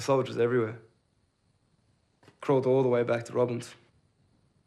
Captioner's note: none